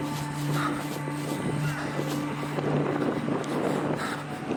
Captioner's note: shooter panting